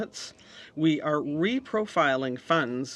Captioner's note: speaking French